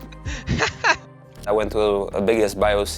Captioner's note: laughs